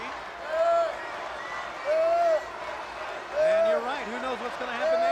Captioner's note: crowd cheering